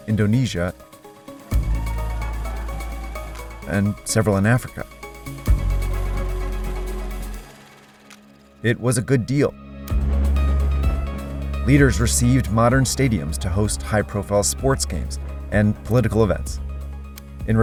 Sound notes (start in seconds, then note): 1.3 crowd cheering; 1.5 energetic music; 5.2 energetic music; 9.7 energetic music